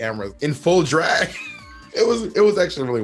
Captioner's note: Bob laughs